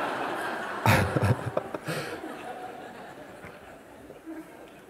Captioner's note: laughter